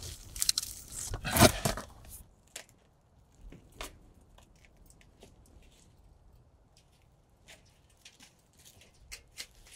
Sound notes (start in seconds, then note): 1.3 metal crackling